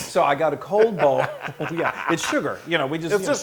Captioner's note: laugh